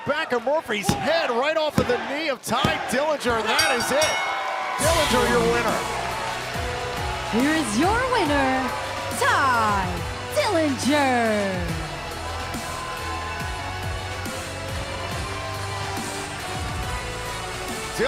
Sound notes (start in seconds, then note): 3.4 bell ringing; 6.5 crowd cheering